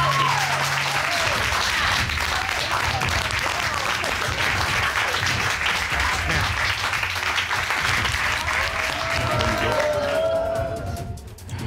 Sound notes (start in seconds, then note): 8.5 audience cheers, applauds